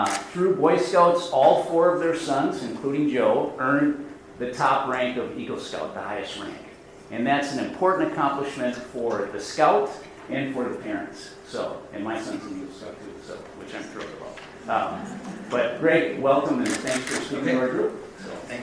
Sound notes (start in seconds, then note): 14.8 audience laughs